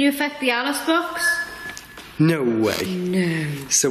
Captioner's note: beeping